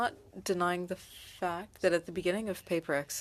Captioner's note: speaking French